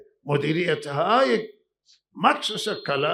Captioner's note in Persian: none